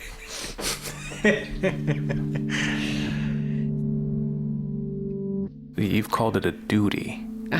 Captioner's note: laugh